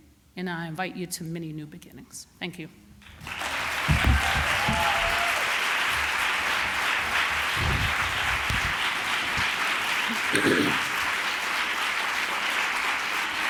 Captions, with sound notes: And I invite you to many new beginnings. Thank you. [applause] [cheering]